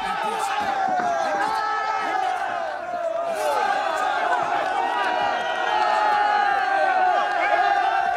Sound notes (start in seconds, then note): 4.8 cheering